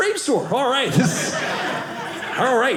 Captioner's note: audience laughing